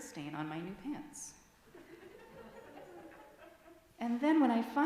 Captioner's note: laughter from adults in congregation